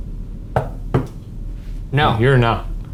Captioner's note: knocks on table